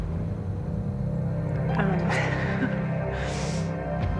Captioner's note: laughs